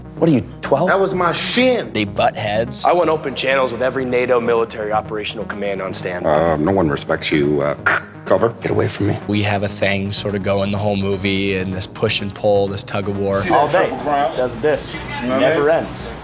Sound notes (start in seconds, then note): 7.3 imitates radio static